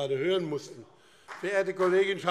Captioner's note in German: Beifall BÜNDNIS 90/DIE GRÜNEN und CDU